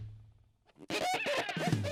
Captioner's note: squeaking